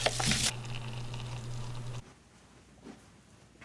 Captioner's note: hot cocoa mix poured into cup; water pour